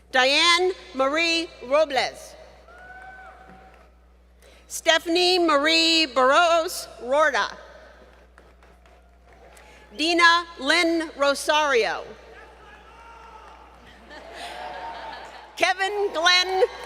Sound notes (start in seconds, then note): 13.8 laughter